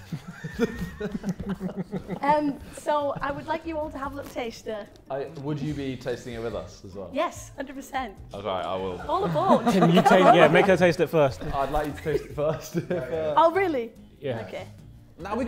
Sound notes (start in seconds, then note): 0.0 Sidemen laughing; 9.0 Sidemen laughing